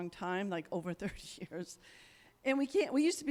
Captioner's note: chuckles